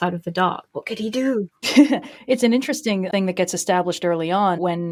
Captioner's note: laughs